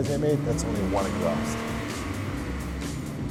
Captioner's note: car engine roars